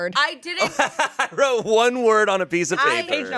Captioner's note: laughs